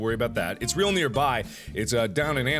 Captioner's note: gasp